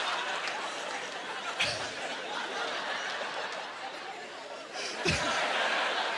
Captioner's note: laughing